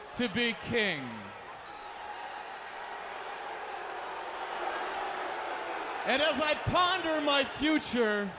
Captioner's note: crowd chatter